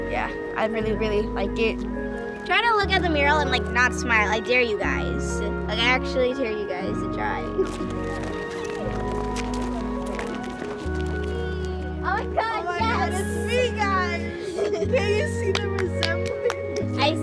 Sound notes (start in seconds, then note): 8.3 indistinct chatter